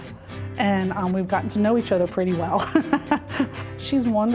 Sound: laughs

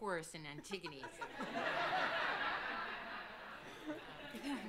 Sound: all laughing

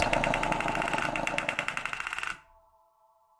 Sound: top spinning

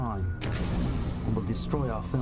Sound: explosion

